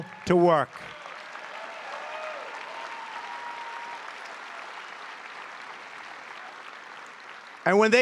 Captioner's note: applause